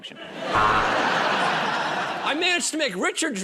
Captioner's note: buzzer